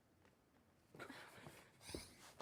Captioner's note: whispers